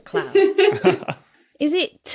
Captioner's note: chuckle